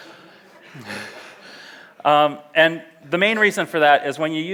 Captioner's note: audience laughs; laughs